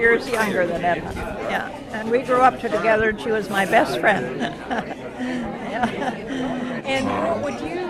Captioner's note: laughs